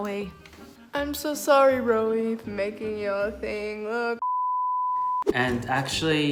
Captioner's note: beep